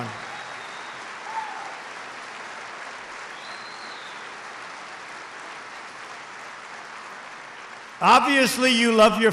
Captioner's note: applause